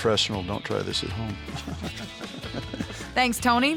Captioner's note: laughing